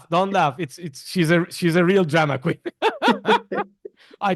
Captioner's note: laughs